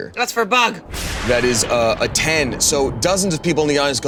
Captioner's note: thunder booming